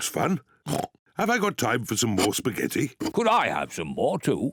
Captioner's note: oinks